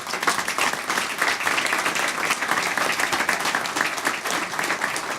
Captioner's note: applause